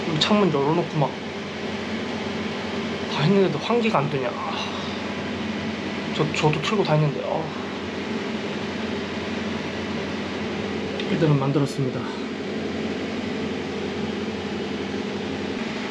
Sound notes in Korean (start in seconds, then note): 9.3 환풍기